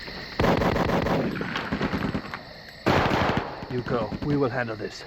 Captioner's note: guns firing